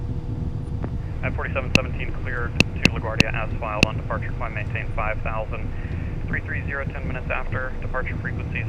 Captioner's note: ATC Chatter